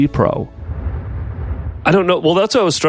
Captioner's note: electronic rumble